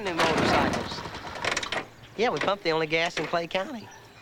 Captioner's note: scoffs